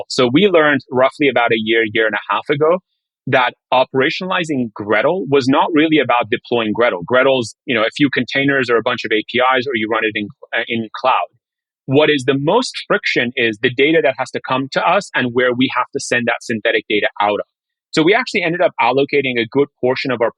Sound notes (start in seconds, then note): none